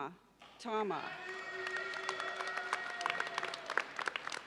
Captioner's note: audience applauds